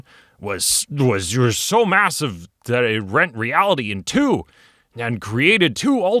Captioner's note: mumbles